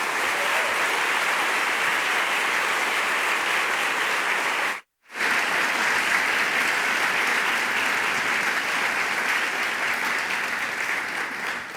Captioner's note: applause